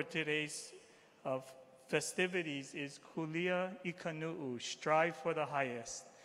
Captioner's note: speaking hawaiian